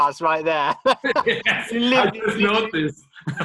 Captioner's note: both laughing